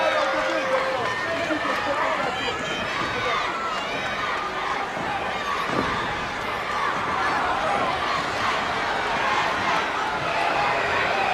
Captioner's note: crowd chatter